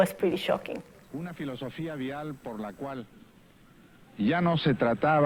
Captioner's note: non-english speech